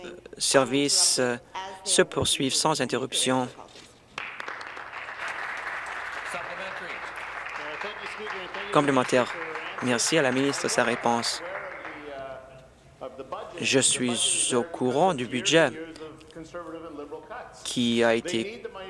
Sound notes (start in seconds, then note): 6.6 applause